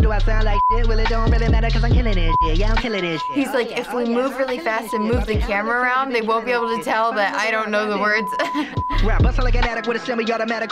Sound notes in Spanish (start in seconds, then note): 8.2 risas